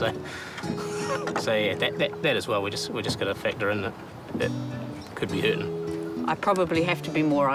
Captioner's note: chuckles